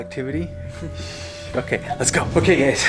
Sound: chuckles

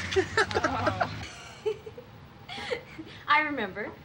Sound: laughing

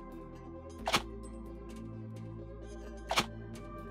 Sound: button popping

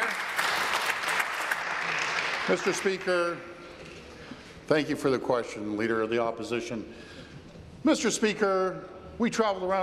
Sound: applause

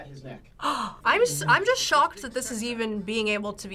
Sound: gasps

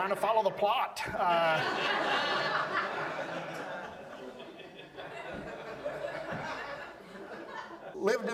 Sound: audience laughs

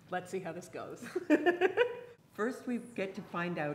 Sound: laughing

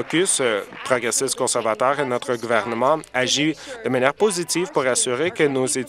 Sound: applause

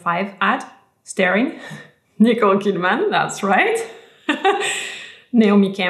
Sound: laughs

